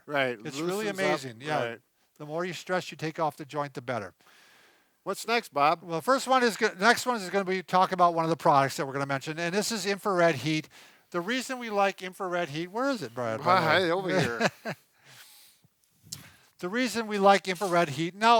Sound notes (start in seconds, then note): 13.3 laughing